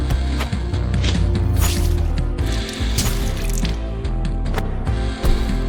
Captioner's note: knife slashing, blood splattering; loud thud